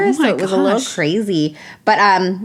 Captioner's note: gasp